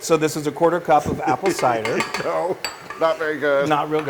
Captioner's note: laugh